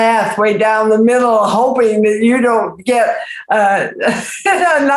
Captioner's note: laughs